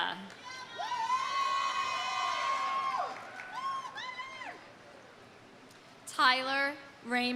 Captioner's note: audience cheering; audience applauding